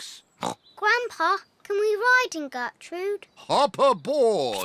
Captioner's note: snorts; piglets giggle